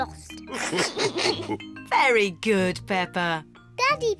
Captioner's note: all laugh